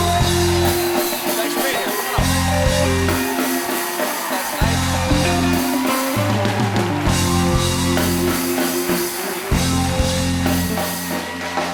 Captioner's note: cheers and applause